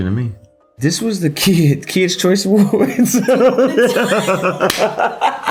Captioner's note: laughing